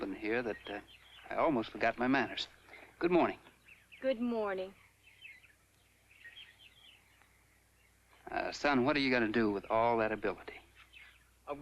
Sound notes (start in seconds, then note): 4.1 contentious tone